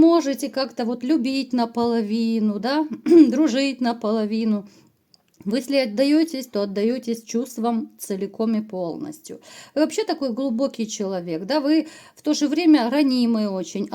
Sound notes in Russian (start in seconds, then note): 3.0 откашливается